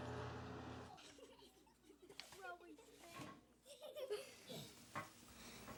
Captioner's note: children chattering